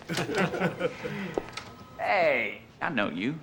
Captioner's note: laughter